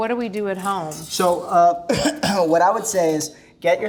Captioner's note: cough